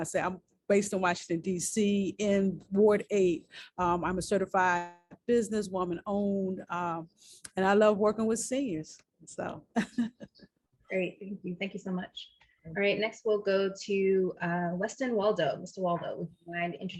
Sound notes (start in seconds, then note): 9.8 chuckling